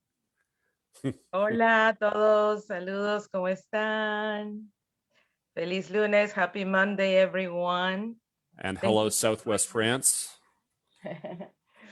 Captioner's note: speaking Spanish; chuckles